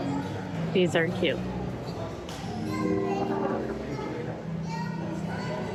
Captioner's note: chatter